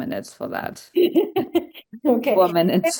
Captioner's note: laughter